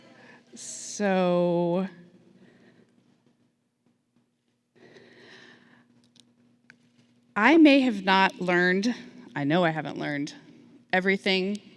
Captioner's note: silence